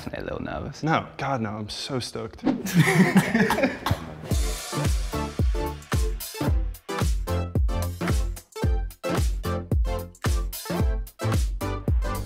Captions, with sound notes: - Definitely a little nervous. - No. God no. I'm so stoked. (men laughing) (bright upbeat music) (bright upbeat music)